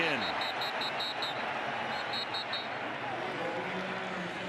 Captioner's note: whistle